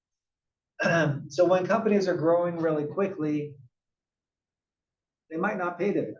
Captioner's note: cough